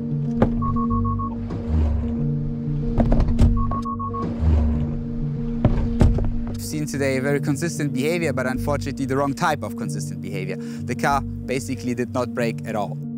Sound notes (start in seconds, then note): 0.0 dummy thuds; 0.2 car beeping; 0.3 dummy thuds; 3.8 car beeping; 5.3 dummy thuds